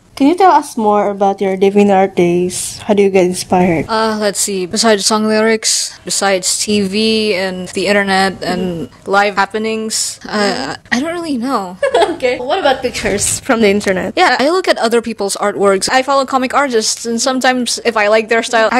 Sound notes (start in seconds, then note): 11.8 laughs